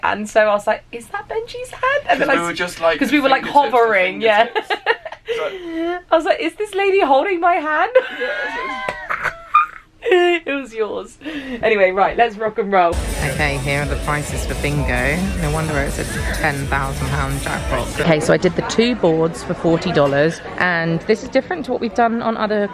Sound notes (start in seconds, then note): 8.1 laughs